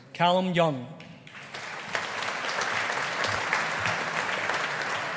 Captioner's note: audience applauding